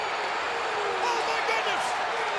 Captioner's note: crowd cheering